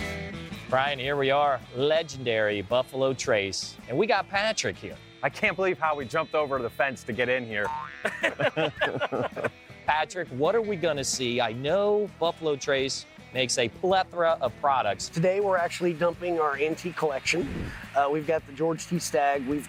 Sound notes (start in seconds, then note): 7.6 spring sound; 8.0 laughter